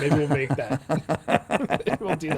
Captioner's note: laughing